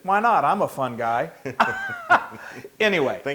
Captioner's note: laugh